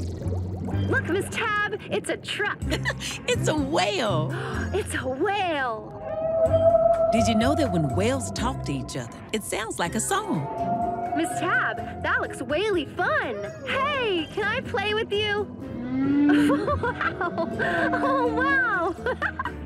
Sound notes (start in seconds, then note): 2.6 chuckles; 15.7 whale sings; 16.2 giggles